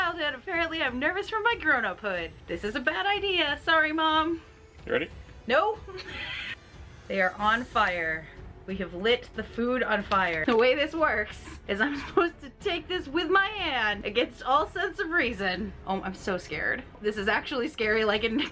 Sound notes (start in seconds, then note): 6.0 laughs